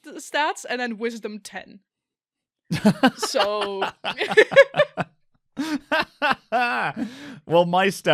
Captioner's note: laughter